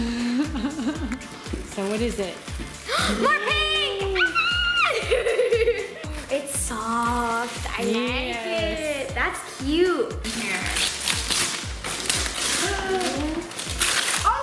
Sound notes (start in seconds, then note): 0.3 laughing; 2.8 gasp; 4.4 squealing